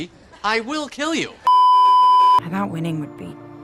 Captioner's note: beeeeeep